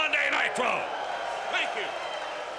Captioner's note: crowd cheering